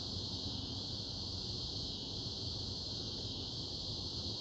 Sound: crickets chirping

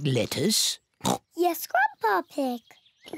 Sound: oinks

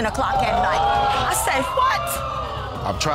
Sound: audience gasps

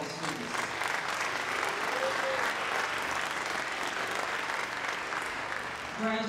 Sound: applause

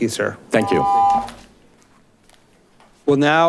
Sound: buzzer beeps

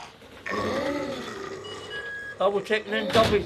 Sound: door bleeps

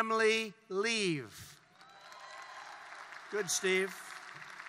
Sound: applause

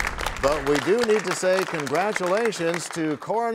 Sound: applause; crashing sound

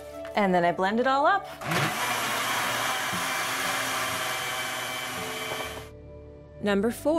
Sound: blender whirring

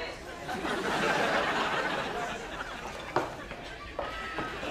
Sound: audience laughing

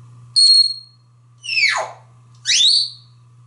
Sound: tweets and whistles

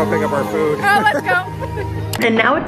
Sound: laughing

